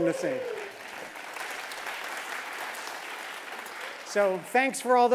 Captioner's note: applause